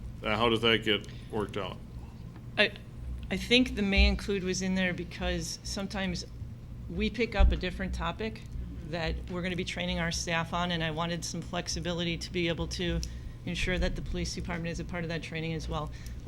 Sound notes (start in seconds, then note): none